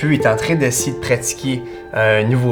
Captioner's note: none